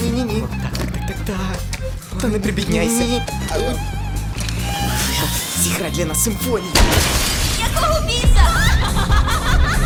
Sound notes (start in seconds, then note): 6.8 gunfire; 6.8 glass shatters; 7.7 laughs